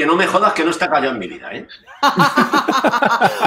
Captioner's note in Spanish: risas